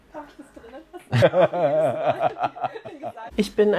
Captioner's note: laughs